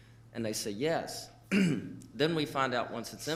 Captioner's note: clearing throat